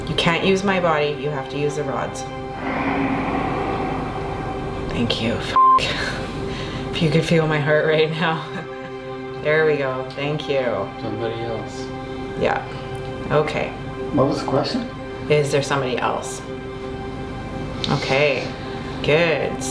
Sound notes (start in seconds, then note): 1.7 eerie suspenseful music; 5.5 beeping